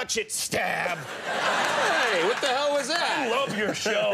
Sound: audience laughing

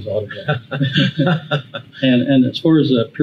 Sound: both laugh

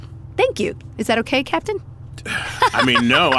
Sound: laughs

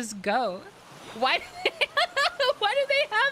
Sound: laughter

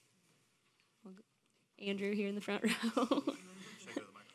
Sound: laughing

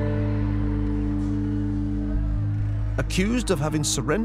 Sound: faint crowd jeering

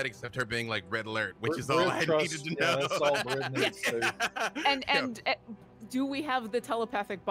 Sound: laughing

